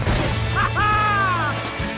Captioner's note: chuckles